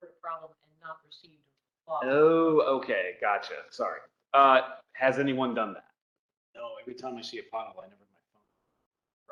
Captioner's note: low voice